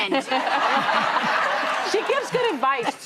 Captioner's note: audience laughs